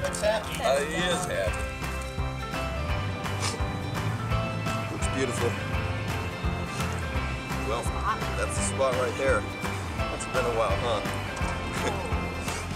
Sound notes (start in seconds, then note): 3.2 man sniffs